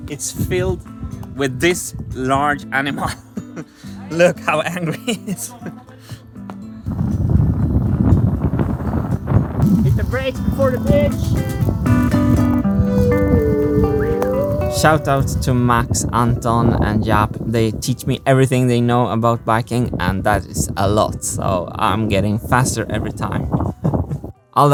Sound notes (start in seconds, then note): 3.2 chuckles; 7.4 wind noise